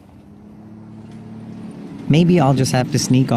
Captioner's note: truck rushing